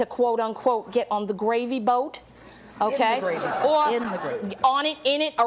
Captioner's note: audience laughs